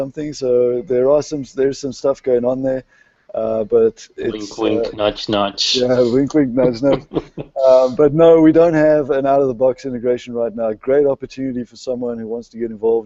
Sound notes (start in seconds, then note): 6.6 laughter